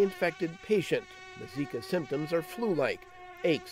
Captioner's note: mosquito buzzing